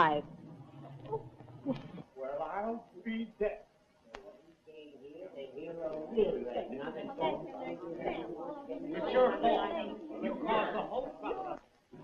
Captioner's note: clamor